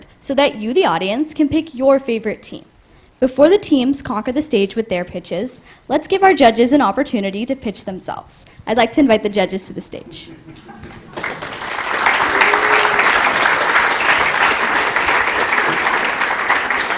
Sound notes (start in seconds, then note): 10.8 applause